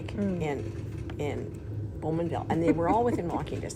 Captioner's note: laughing